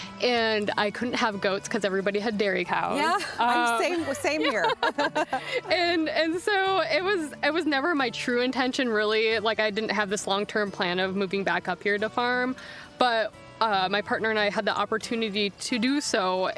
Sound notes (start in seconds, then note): 3.0 both laughing